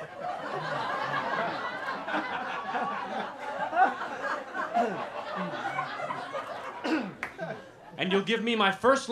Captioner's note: laughter